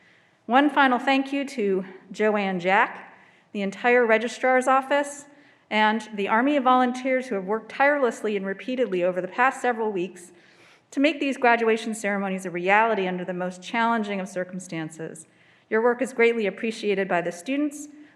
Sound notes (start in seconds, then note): none